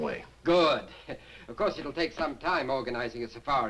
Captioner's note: chuckles